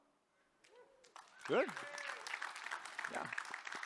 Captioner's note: applause